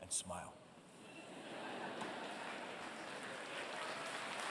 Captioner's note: laughter